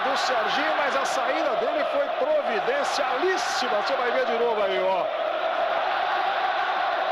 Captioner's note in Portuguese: aplausos